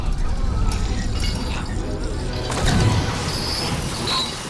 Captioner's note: chains rattling; sewage sloshing